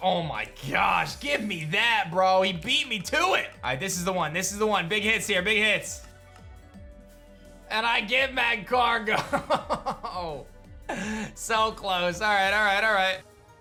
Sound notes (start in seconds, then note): 9.1 chuckles